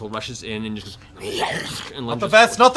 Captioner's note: slithering fire noises